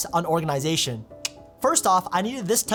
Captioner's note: clicks tongue